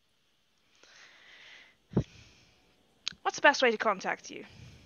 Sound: deep breath

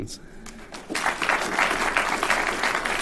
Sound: applause

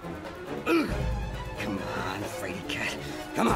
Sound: groans

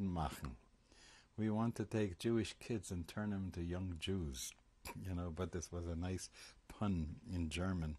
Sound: german

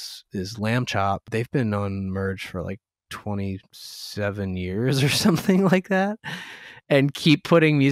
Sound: laughter

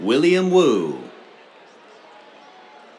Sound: cheers

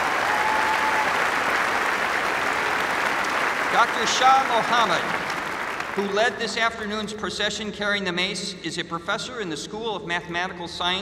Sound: applause

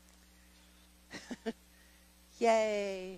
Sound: laughing

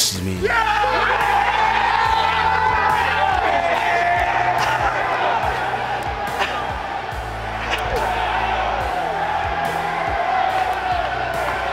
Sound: cheering

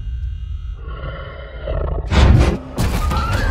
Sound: snarling

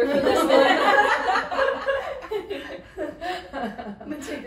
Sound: women laugh

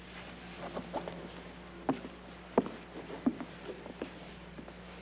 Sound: footsteps banging

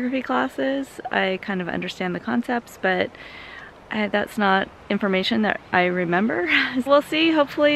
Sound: laugh

